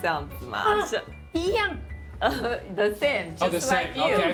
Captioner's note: speaking local language